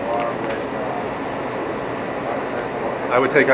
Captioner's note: crunching